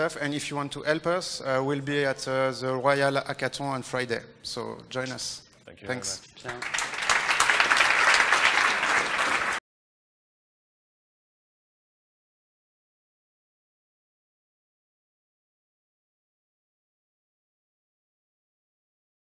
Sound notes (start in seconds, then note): 6.4 applause